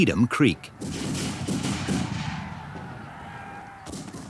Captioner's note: guns bang